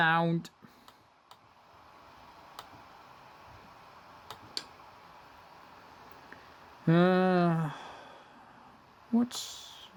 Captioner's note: laptop dvd drive spinning